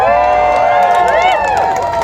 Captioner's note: loud cheers and applause